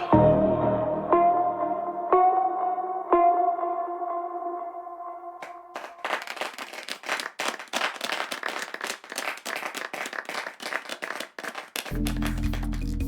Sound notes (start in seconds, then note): 5.4 clapping